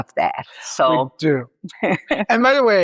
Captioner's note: laughs